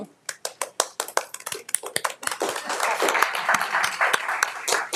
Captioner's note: audience applauding